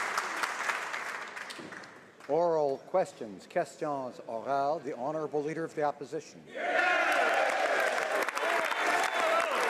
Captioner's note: speaking French